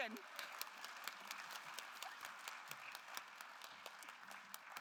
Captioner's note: attendees applauding